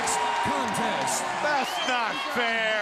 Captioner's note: crowd cheering